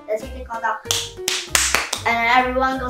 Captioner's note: clap